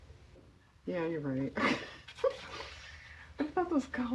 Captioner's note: laughs